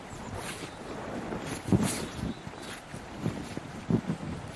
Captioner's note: chickadees singing